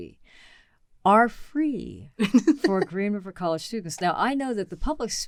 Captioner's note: chuckles